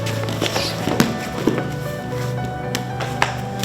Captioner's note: thudding